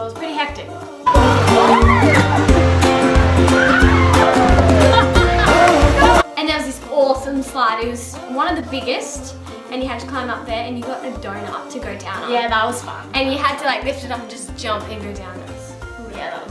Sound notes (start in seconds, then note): 2.1 upbeat music; 3.4 cheering